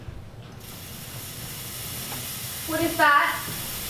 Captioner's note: sound of gas pouring into the room